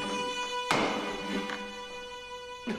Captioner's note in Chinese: 咚!